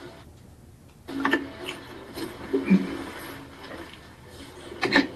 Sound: radio echoing

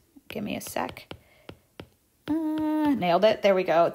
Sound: stylus tapping on tablet

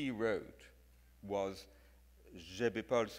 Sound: speaks in foreign language

